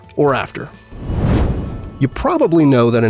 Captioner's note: whoosh